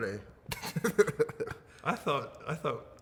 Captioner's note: laughing